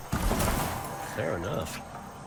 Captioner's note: plank thuds